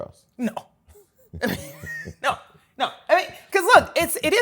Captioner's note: laughs